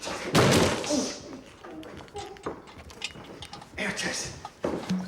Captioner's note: furniture crashing